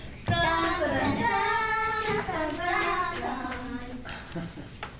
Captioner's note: humming A-Team theme